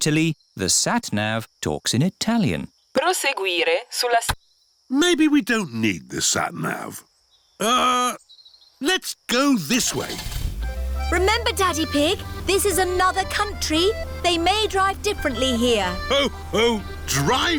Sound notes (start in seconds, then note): 3.3 sat nav talks in italian; 9.8 starts engine